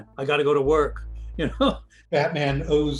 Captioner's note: laughs